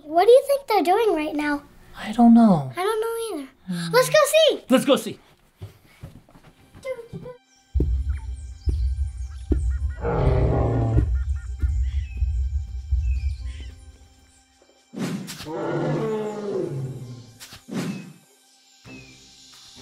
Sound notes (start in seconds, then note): 5.5 feet thudding; 8.4 birds chirping; 8.8 monkeys chattering; 10.1 dinosaur roaring; 10.1 feet stomping; 15.4 dinosaur bellowing